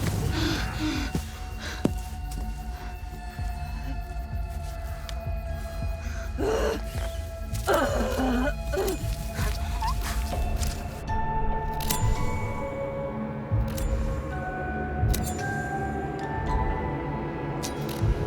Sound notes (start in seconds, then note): 0.0 body thudding; 0.2 Dorothy gasping; 7.6 eerie music; 7.6 shears rasping